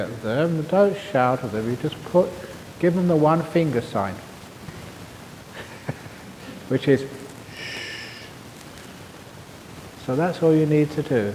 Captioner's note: chuckle